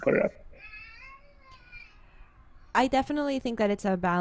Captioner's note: baby cries